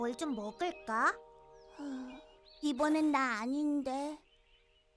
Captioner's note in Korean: 한숨